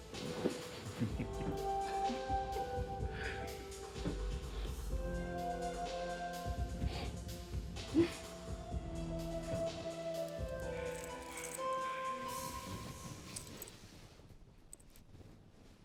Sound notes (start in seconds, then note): 0.8 laughs